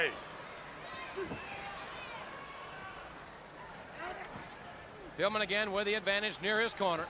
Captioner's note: crowd chatter